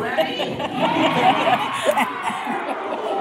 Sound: laughter

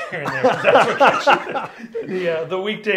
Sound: both laughing

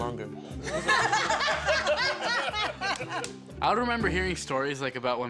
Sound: laughing

